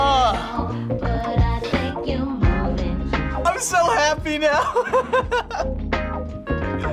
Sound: laughs

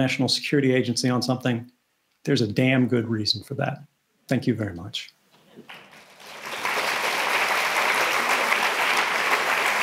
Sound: applause

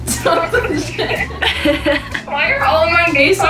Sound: laughing

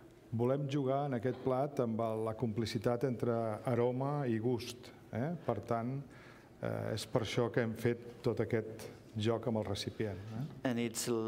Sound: speaking catalan

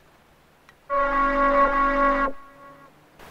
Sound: alarm Sounds

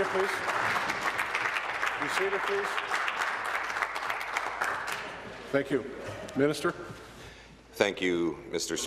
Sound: applause

